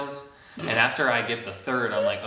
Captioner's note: snorts